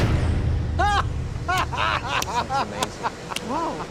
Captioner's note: agent shouts